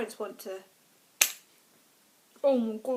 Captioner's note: slap